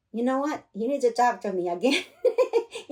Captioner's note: laughter